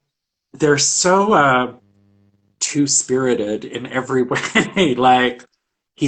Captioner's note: laughs